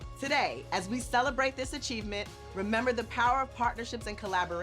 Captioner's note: none